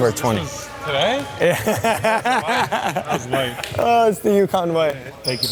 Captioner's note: laughing